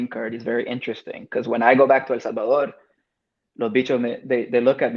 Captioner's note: speaks Spanish